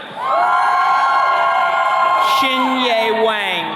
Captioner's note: attendees cheering